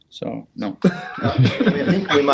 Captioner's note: laughing